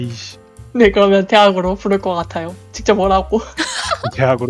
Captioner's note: laugh